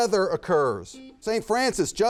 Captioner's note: buzzer buzzes